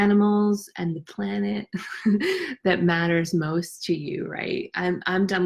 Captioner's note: chuckles